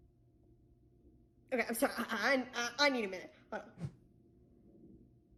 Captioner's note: none